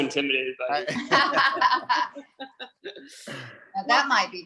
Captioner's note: group laughs